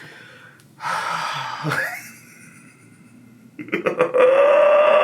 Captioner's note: sighs and laughs